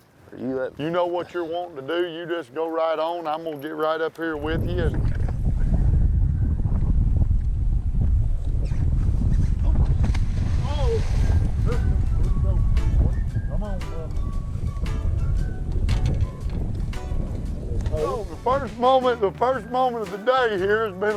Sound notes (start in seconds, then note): 10.6 splash